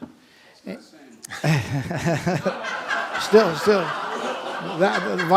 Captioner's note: laughter